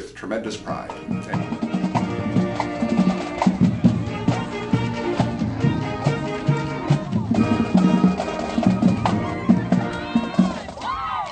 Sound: crowd cheering, band music playing

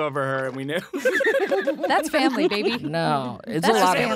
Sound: they laugh

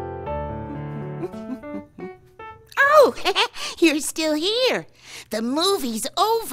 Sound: laughing

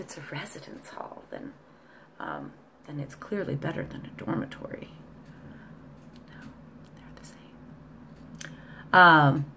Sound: whispered

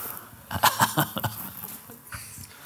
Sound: laughs

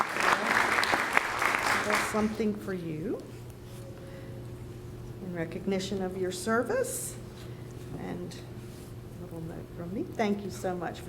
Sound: applause

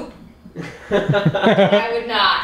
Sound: laughter

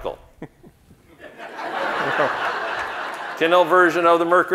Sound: audience laughing

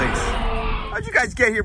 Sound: dinosaur roars

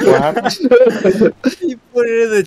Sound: laughter

